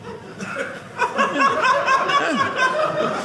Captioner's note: audience laughing